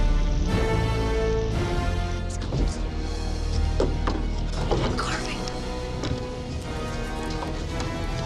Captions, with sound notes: (boys muttering) The carving.